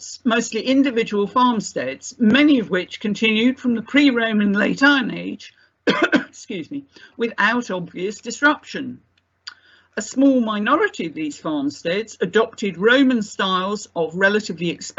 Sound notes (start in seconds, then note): 5.8 coughs